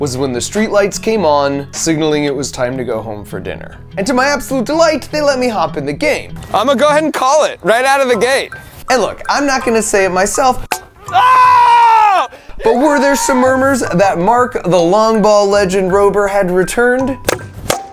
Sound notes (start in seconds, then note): 11.4 person groaning; 17.7 ball clacking